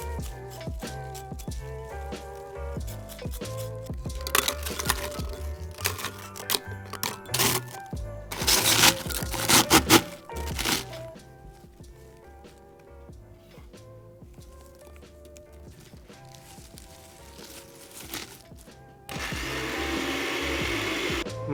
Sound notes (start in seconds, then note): 0.1 soft lo-fi music; 4.0 crunchy bread noises; 11.4 disgusting greenery squeezing noises; 19.1 blender roar